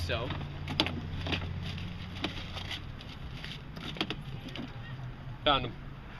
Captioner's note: phone book pages flipping